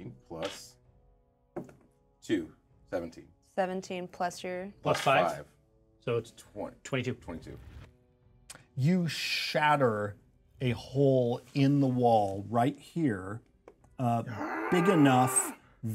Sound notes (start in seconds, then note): none